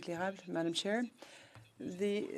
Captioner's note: speaking French